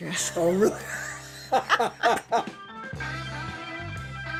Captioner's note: laughing